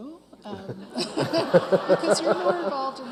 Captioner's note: all laughing